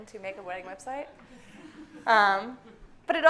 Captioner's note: audience laughing